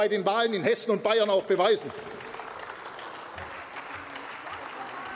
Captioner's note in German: Beifall